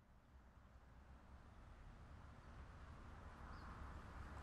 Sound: summer sounds, cars driving, birds chirping

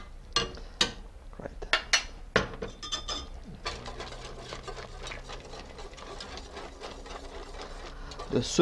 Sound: mixing sounds

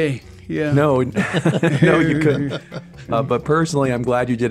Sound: laughing

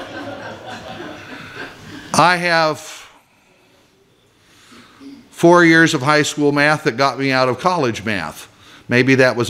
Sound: laughter

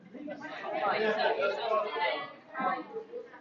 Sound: chattering

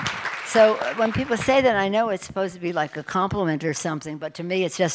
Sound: applause

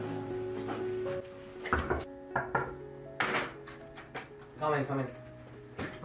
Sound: knocks on door

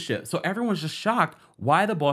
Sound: none

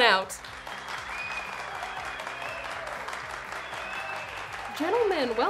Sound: audience cheers and applauds

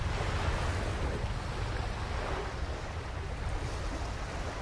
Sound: waves continue

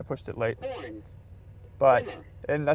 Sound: car voice

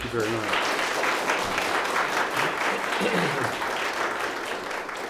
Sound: audience applause

